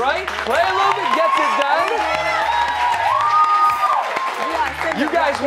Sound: cheers and applause

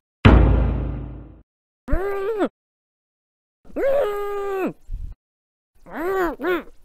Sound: mumbling

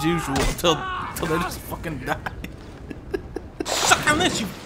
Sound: chuckling

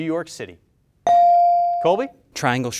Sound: bell rings

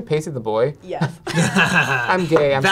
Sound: laughs

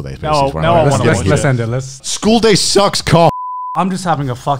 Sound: beep

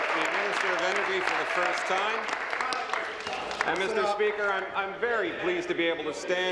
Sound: applause

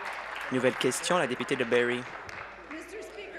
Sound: applause

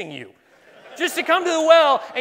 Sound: laughing

